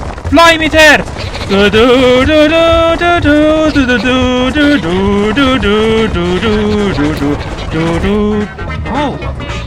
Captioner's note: humming